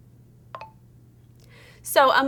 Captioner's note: end of speech button noise